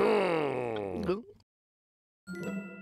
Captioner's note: growls; gulps